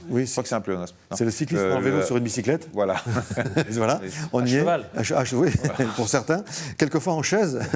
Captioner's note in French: rires